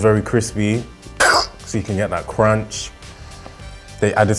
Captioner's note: imitating crunching